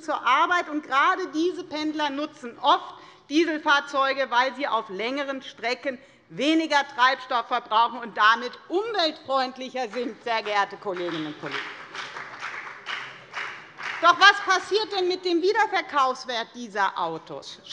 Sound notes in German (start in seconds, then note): 9.9 Beifall bei der FDP